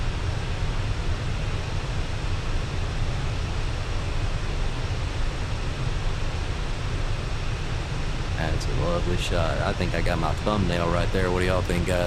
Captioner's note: radio chatter